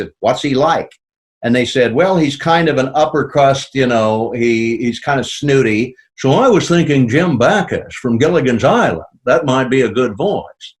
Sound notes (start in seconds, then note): 5.7 In Jim Backus' voice; 10.5 in normal voice